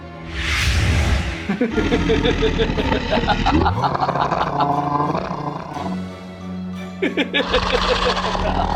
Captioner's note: low growling; evil laughter